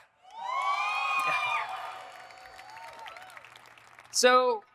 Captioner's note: audience cheering